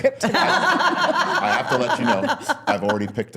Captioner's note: laughing